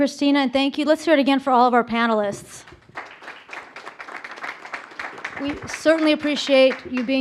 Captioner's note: applause